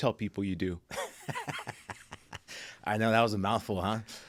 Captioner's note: laughing